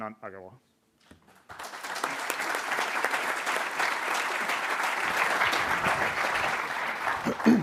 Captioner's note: applause; cough